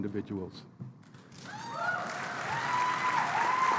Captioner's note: applause